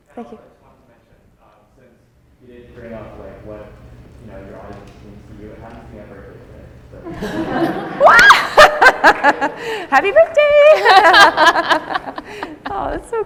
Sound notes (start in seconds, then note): 7.0 audience laughing; 7.1 laughing; 12.1 laughs